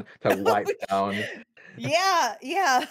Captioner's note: laughs